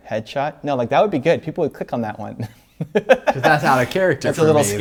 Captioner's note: laughs